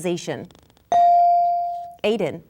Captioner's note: bell dinging